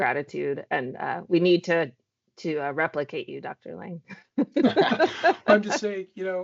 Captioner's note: laughs